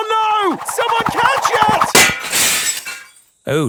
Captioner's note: shatters